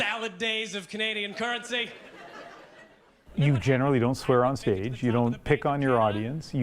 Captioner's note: laughter